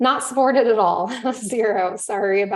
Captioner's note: chuckles